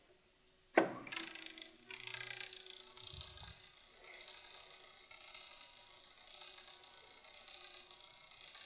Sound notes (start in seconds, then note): 1.0 reel whirring